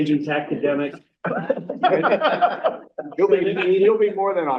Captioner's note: laugh